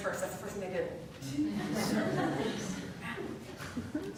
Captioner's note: laughter